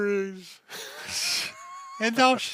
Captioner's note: laughs